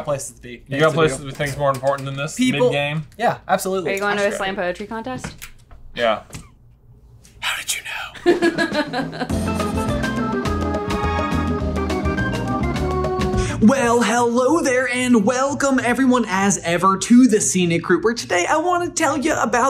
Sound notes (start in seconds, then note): 8.2 laughter; 8.4 jaunty Theme